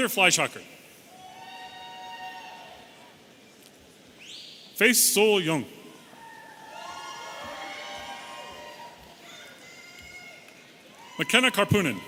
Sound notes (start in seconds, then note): 3.7 audience whistling